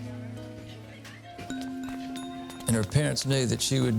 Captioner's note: students chattering